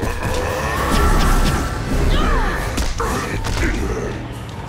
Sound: grunting

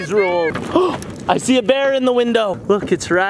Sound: gasps

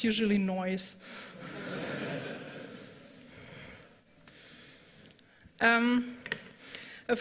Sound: laughter

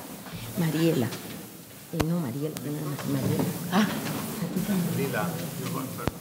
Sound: speaking in a foreign language

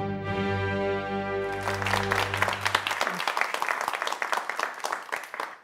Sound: applause

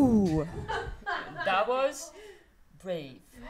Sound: sparse clapping; laughter

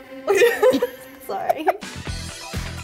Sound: dramatic music builds; both laugh

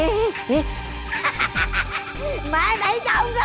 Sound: giggles

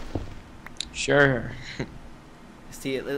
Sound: hmph

